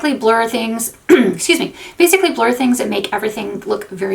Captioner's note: clears throat